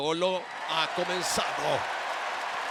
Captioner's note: applause